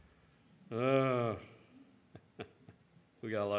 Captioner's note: grunts; chuckles